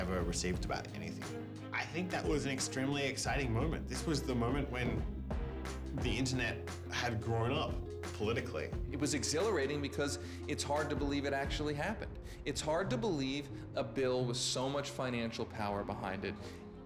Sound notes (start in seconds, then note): none